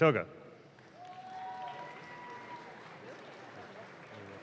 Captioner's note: audience claps